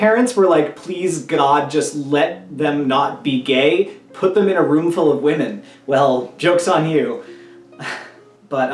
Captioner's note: laugh